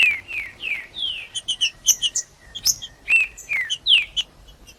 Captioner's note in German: trinca ferro cantando; trinca ferro cantando